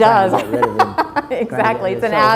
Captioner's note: laughs; president speaks faintly